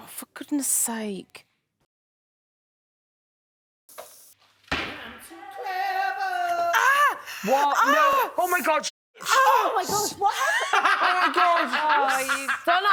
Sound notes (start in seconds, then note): 9.3 laughs